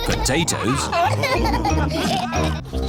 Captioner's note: laughter